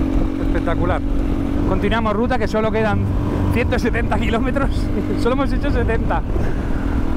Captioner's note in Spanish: risas